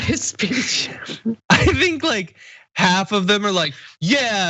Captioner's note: laugh